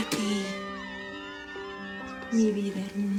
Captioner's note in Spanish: Algarabía de los fans